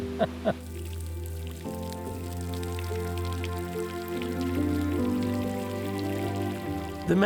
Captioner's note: falling water; laughs